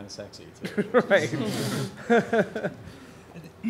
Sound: laughter

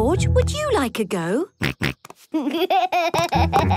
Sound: snorts, giggles

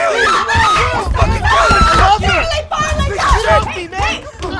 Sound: screaming and yelling

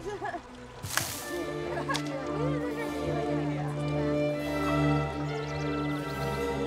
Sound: slow orchestral music; students chatter

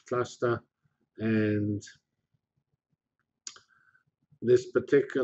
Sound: pause

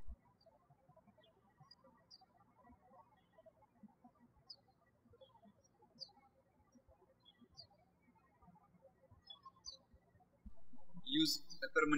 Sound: birds chirping

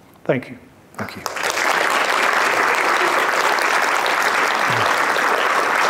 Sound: audience applauding

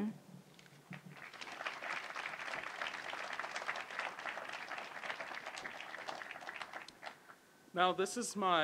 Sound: applause

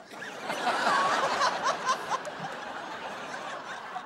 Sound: laughter

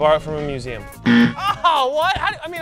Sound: buzzer

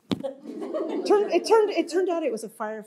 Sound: laughter

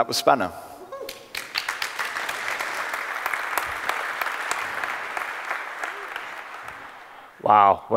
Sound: applause

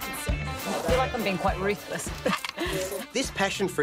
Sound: chuckles

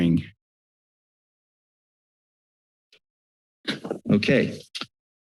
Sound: silence

